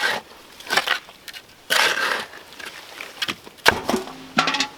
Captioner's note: scraping